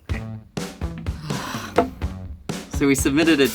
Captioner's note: sighs